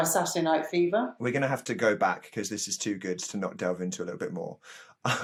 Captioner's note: laughs